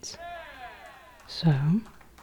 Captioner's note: audience cheering